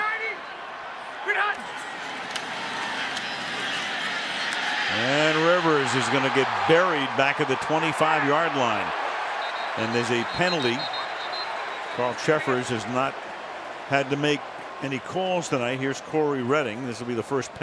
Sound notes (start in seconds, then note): 9.4 cheering; 10.4 whistle